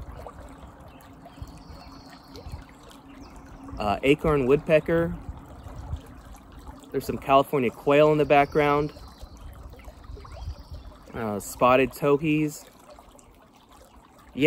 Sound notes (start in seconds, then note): 0.8 distant bird chirping; 5.4 water trickling; 12.6 water trickling